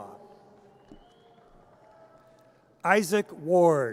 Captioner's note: audience cheers